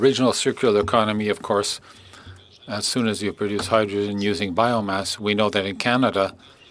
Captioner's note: speaking French